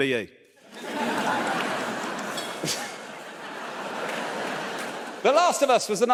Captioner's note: audience laughs